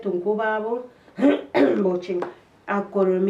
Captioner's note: coughs